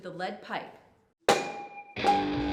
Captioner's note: metal clanking; dramatic music